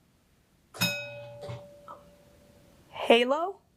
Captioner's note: bell rings